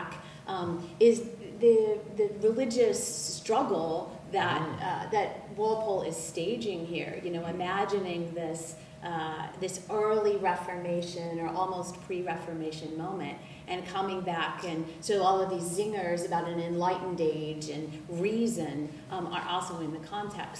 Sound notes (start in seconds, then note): none